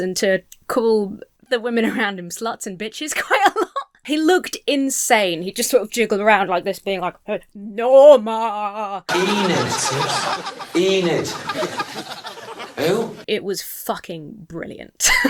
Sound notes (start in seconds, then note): 3.3 laugh; 9.1 people laughing